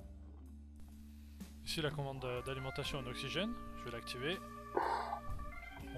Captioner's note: pchh